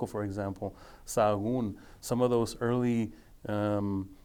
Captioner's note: speaking foreign language